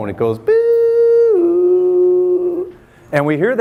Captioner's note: makes siren noise